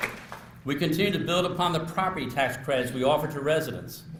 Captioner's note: applause